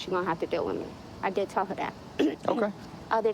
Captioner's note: clearing throat